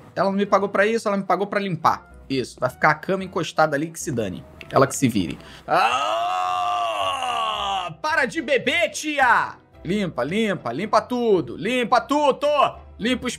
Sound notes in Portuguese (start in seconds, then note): 5.7 felipe resmunga